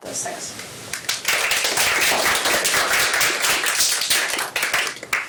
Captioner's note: applause